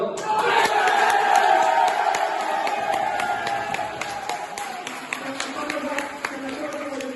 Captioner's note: tons o'clapping